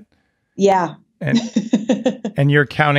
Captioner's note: laughing